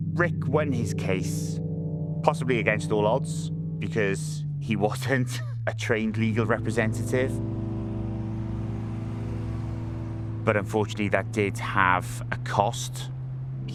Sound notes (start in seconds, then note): 7.9 traffic hums